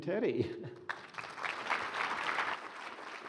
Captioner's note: applause